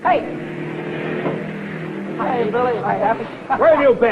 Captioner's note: car revving